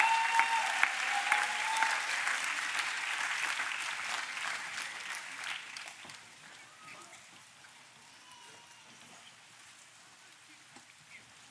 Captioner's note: applause